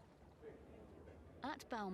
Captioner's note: people chattering